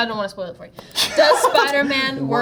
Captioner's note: Jacob laughing